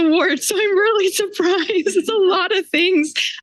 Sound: laughs

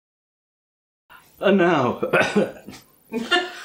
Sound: coughs; laughs

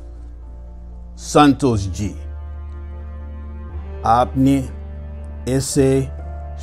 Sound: speaking foreign language

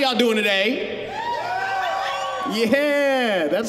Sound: audience cheering

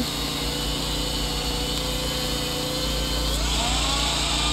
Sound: shredder whirs

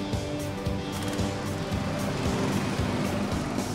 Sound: kart motors rev

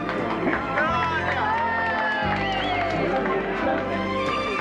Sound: crowd cheering

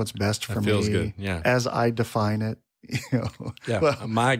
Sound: laughs

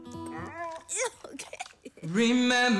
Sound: laughs

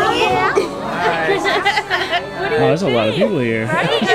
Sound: laughing

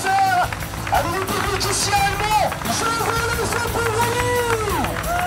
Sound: announcer yelling in foreign language

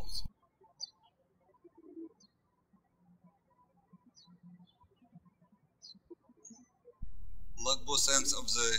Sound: birds chirping

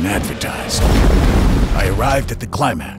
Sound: boom!

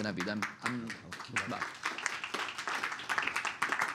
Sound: applause

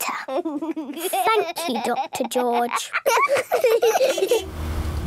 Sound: laughs

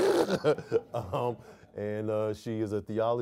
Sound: and audience laughs

